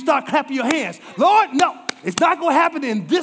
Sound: clapping

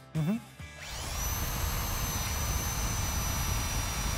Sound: drill sounds

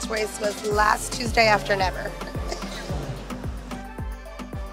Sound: laughing

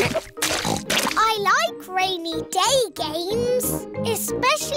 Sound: oinks

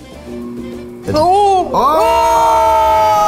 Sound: machine humming

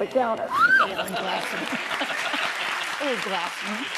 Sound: audience applauds

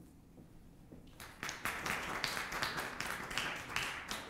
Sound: applause

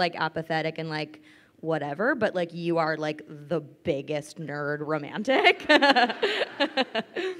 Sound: laughs

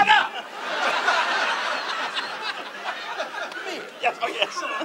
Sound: audience laughs

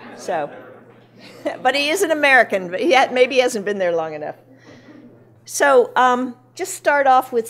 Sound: laughing

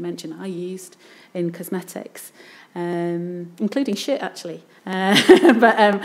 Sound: laughs

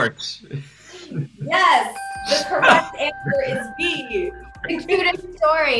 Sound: bell dings

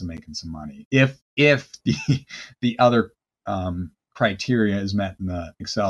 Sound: chuckles

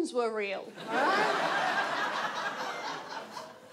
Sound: audience laughs

